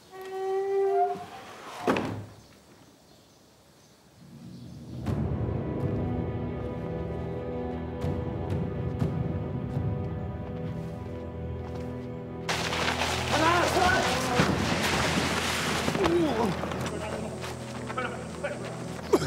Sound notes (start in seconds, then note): 0.1 door creaking; 1.7 door clunking; 4.6 solemn dramatic music; 12.4 body scraping; 13.4 man speaks in foreign language; 15.9 Lao Ai groans